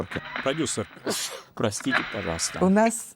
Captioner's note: sneezes